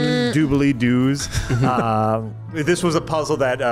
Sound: laughs

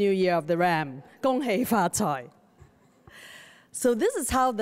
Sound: speaks Chinese

